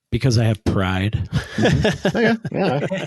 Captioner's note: laughing